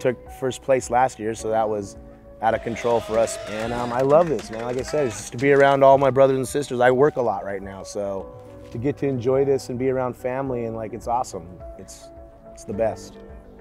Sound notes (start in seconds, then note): 0.0 piano music; 2.5 crowd cheering